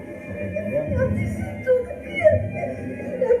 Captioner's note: crying inaudible